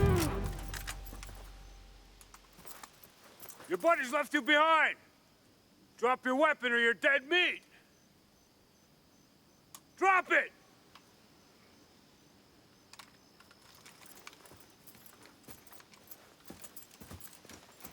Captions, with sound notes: (guns cocking) - Your buddies left you behind. Drop your weapon or you're dead meat. Drop it!